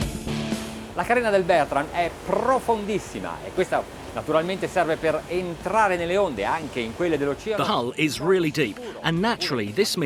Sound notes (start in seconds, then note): 1.1 speaking in foreign language